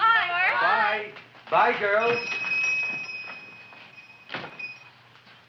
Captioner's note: bell ringing